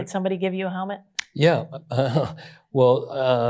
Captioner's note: chuckles